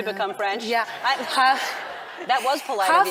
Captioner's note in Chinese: 笑聲